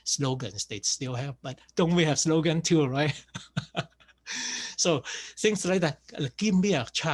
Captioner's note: laughs